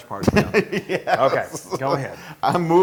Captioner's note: laugh